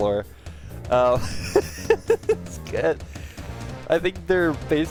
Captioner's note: laughing